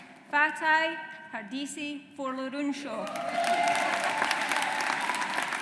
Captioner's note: audience applauds